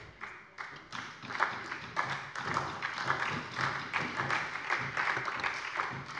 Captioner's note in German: Beifall bei der SPD